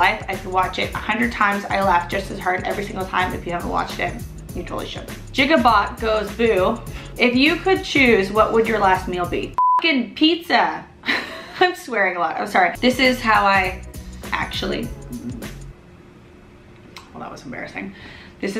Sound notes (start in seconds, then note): 9.5 beep; 11.1 laughs; 15.0 burps